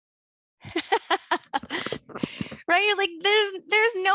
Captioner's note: jovial laughter